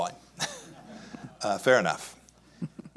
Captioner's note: chuckles; audience laughs